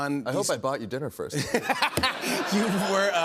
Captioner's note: laughter